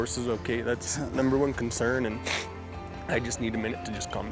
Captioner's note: sniffs